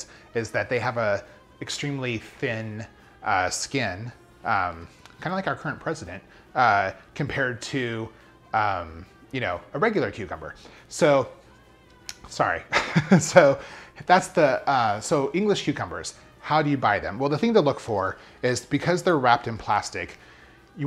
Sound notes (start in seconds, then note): 12.7 chuckles